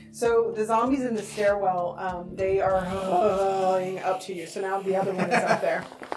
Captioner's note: zombie moan